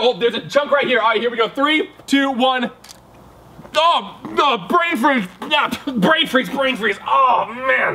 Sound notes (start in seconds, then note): 3.0 crunching